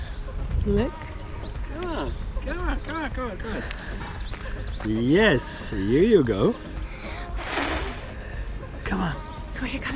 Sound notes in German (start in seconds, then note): 2.1 murmelt